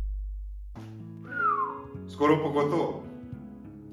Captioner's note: whistle